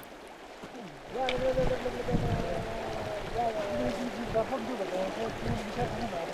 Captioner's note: speaking foreign language